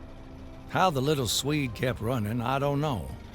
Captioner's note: machine droning